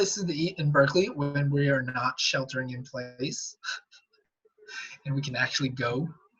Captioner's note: laughs